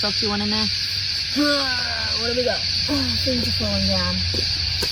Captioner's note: grunts loudly; sighs